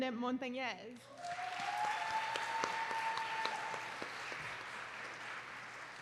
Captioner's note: applause